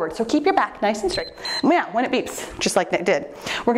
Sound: timer beeps

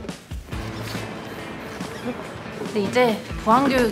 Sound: excited

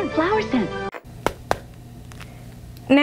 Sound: punching Gloves Together

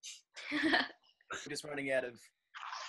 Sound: chuckles off-screen

